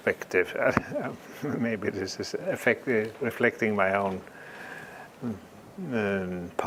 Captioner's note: laugh